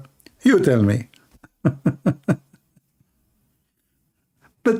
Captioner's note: Ketawa